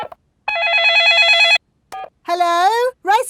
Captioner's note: dialing; cell phone ringing